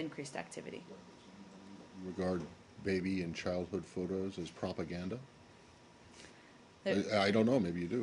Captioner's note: off-mike